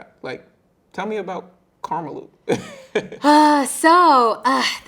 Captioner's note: chuckling